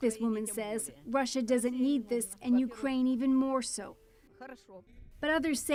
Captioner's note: speaking Foreign Language